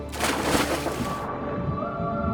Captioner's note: water splashes